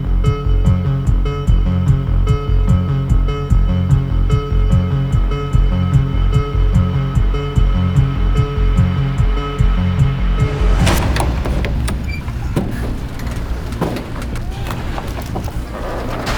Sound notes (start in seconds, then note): 10.6 latch rattling